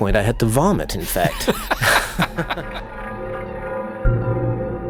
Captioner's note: laugh